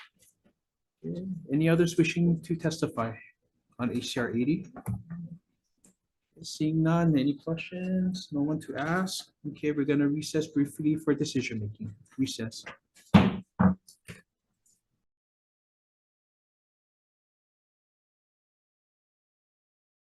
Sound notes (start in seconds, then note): 0.1 paper rustling; 13.1 gavel thuds